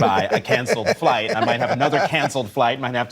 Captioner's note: laughter